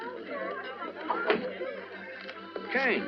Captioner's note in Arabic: الباب يُفتح